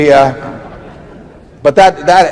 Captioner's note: laughter